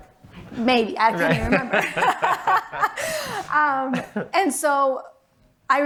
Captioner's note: laughs